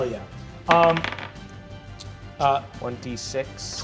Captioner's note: dice clatters